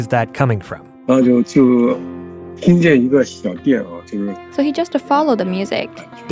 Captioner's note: speaking Mandarin Chinese